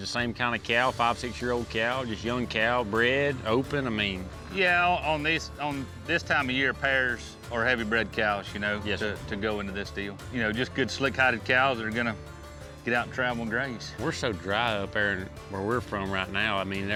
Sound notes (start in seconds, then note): none